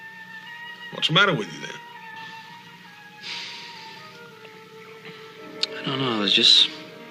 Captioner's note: sighs softly